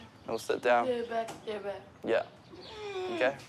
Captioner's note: none